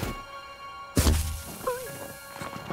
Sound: deep snow sound; snow powder sound

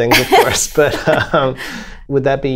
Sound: laughter

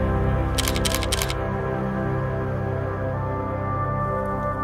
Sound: camera shuttering

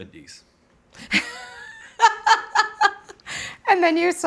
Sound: laughing

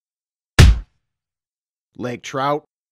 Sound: punch sound

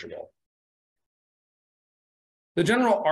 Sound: pause

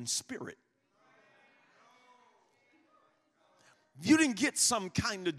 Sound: congregation muttering in agreement

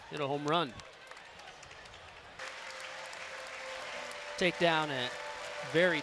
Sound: clapping

